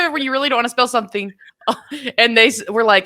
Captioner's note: chuckles